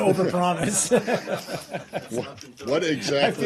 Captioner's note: laughter